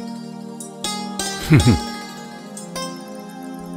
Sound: chuckles

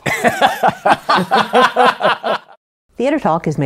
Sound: laughter

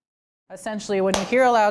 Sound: hands clap

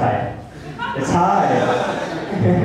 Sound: laughter

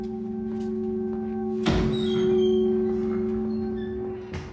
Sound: door opening and closing

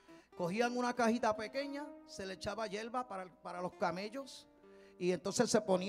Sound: man speaking in Spanish

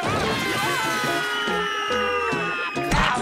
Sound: screaming

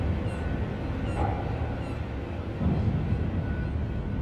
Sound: bird chirping

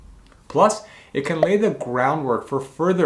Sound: bubble popping

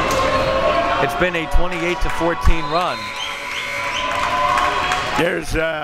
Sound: buzzer

